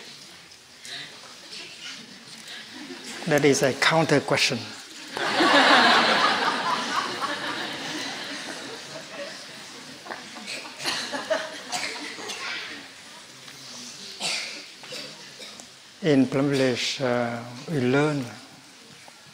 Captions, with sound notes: That is a counter question. (Laughter) In Plum Village, we learn